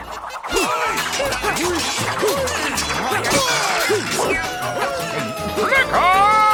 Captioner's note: grunting